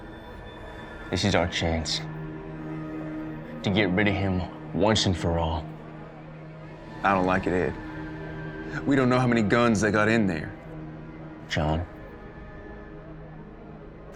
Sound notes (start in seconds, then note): none